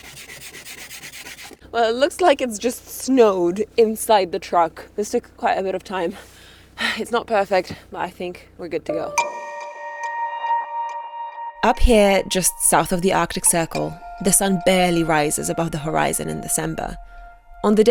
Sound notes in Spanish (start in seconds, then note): 6.5 suspiros; 9.4 música brillante